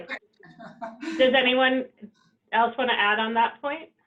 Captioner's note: chuckles